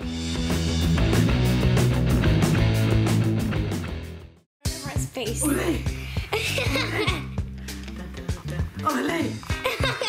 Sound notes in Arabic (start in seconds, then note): 0.0 الموسيقى متفائلا; 5.4 ضحك